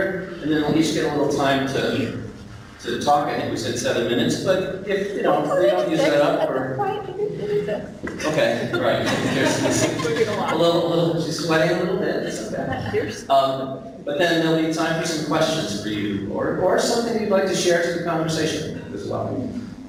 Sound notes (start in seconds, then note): 8.0 laughing